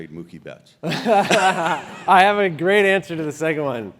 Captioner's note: laugh